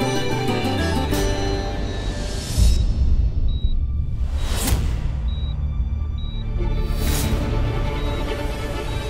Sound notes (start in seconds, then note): 2.8 machine beeps